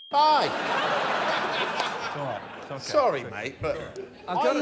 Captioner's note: laughter